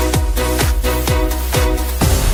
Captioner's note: gunshot